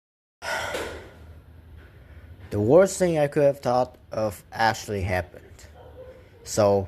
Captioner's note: sigh